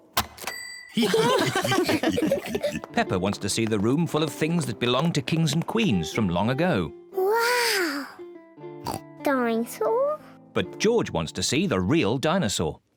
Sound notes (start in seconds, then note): 1.0 all laugh; 8.8 oinks